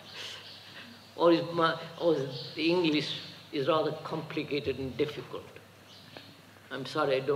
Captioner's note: laughs